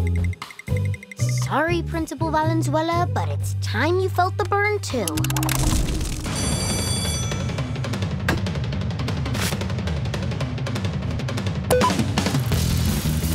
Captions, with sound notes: Sorry, Principal Valenzuela, but it's time you felt the burn, too. [bell ringing] [beeping]